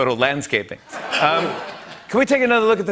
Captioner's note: laughter